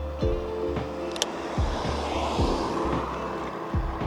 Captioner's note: car passes